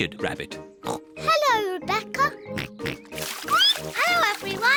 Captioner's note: oinks; squeaks